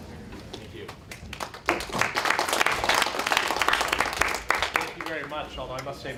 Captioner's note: applause